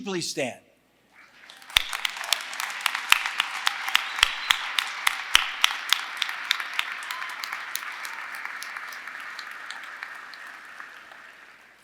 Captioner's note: applause